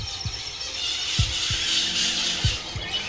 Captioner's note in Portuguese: Tambores; Aumenta o canto das araras; Coração batendo